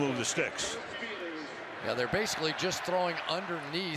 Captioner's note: pa announcement